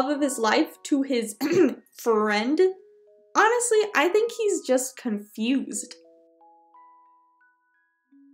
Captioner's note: aHem